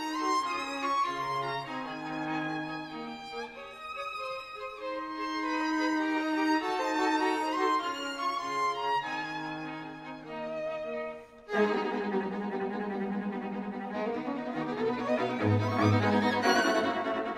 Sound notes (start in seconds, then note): none